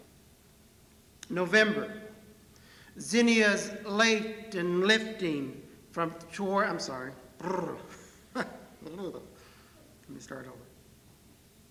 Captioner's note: rolls his R's, then laughs